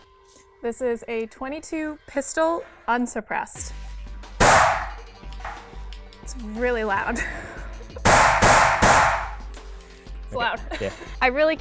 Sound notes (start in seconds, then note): 4.4 gunshot; 8.0 gunshots